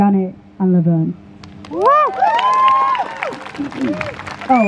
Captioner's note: crowd Cheers